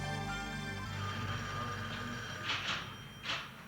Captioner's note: phone rings